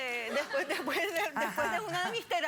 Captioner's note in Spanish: risas